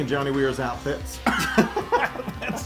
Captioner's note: laugh